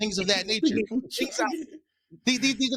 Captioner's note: laughing